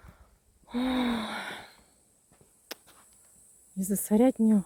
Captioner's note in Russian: тяжело вздыхает; вздыхает